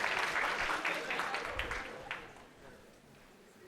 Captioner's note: cheering